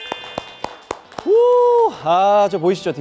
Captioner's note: excited sound effect